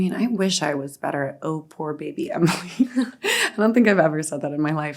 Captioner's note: chuckling